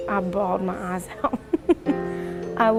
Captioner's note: chuckling